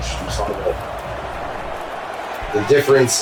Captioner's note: crowd Noises